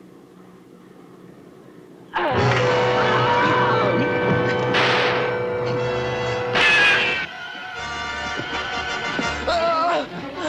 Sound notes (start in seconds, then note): 2.3 dramatic instrumental music; 2.9 Charlie screaming; 4.7 gunshots